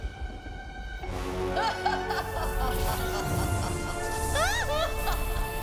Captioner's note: Opaline's laughter echoing